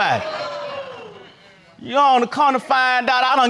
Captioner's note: crowd exclaims